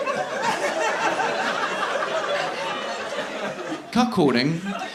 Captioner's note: audience continue laughing